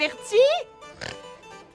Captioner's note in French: petit ronflement